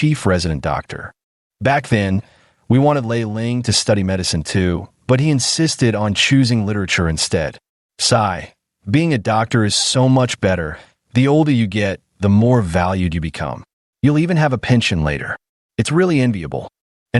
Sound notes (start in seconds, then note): 5.5 sigh